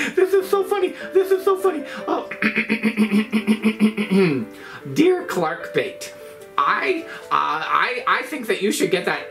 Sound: clears throat

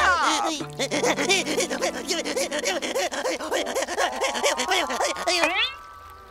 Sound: sobbing

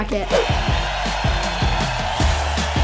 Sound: crowd cheering

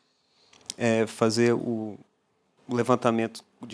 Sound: non-english speech

